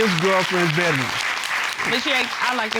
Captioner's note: applause